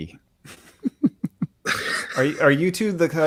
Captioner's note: laughing